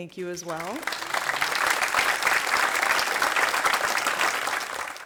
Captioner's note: applause